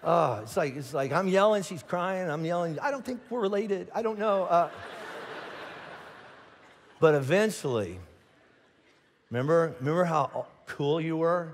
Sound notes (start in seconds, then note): 2.9 congregation laughing